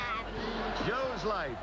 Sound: laugh track

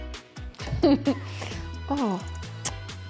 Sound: laughs

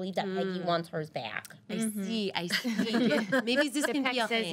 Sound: girls laughing

